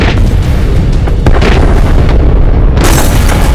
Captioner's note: explosions